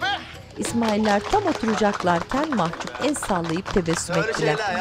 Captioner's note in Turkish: Alkış sesleri